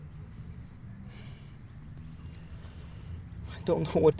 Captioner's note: sighs